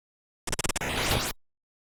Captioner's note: C64 martial arts sounds